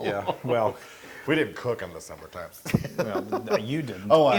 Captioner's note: laugh; laugh